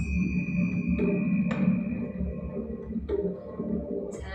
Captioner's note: chiming